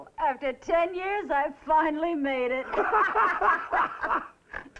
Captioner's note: both laugh